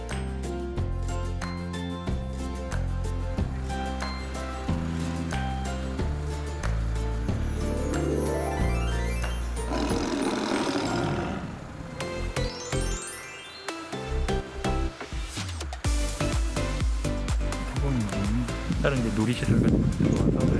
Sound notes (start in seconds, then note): 9.6 roar